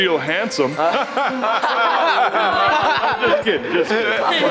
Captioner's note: laughing